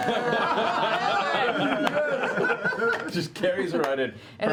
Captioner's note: laughter